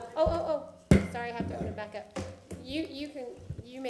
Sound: sounding gavel

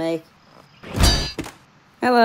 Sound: bonk!

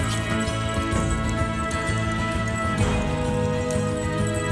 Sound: jingly bell

